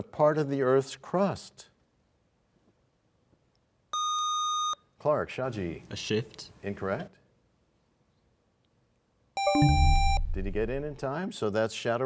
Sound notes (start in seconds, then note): 9.4 buzzer sound; 9.4 bell chimes